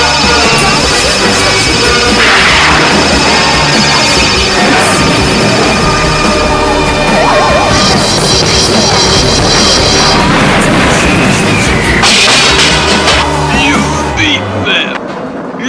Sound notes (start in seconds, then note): 12.0 crash!